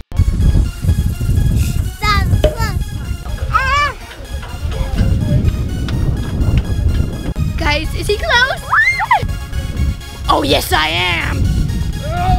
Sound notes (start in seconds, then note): 1.6 techno music; 8.6 girls scream; 12.1 groaning